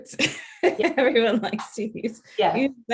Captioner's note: laughing